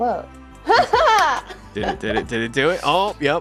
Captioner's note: laughs